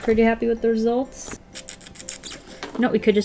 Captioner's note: mouth kissing